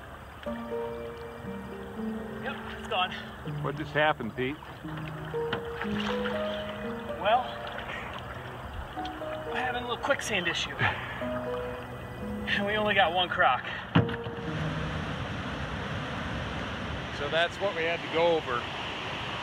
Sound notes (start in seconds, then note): 5.1 water splashing; 14.7 water rushing